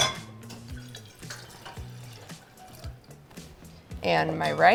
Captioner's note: water sloshing